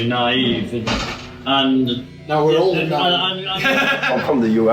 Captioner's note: laughs